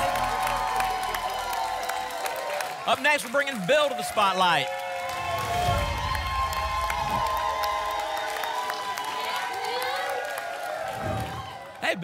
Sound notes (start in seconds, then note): 0.1 applause and cheering; 5.7 applause and cheering; 7.0 whoosh; 8.0 applause and cheering; 10.8 whoosh